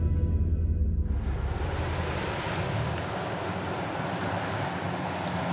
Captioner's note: engine rumbling